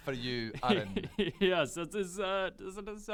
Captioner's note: smug laugh